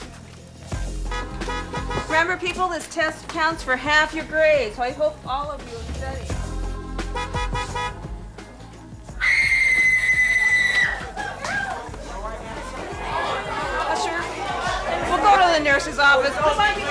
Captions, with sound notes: Remember, people, this test counts for half your grade, so I hope all of you studied. (horn honking) (girl screaming) (students exclaiming) Usher, go to the nurse's office.